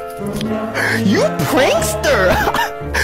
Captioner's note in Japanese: 笑笑笑